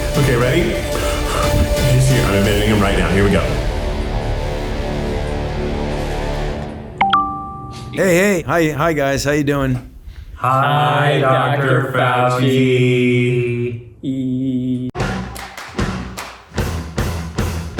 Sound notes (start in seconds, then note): 4.1 dramatic music; 7.0 bell ringing; 15.0 upbeat music